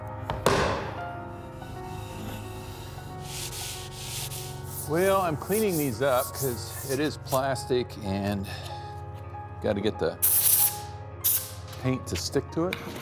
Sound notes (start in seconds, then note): 0.2 pipe banging; 3.2 sandpaper scratching